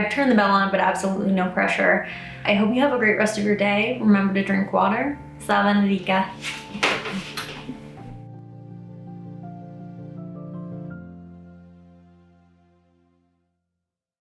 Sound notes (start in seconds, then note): 5.7 speaks foreign language; 9.3 peaceful music continues